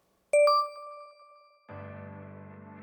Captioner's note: digital beeping; gentle music